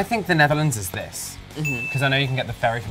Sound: bell dings

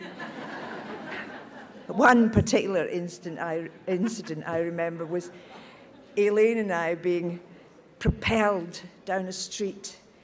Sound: audience laughs

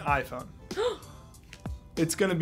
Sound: gasps

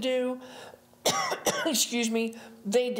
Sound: presenter coughing

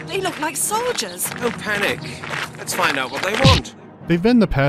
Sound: smack

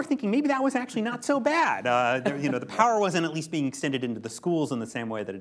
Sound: laughter

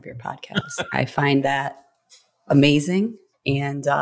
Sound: laughs

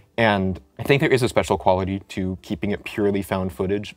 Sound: none

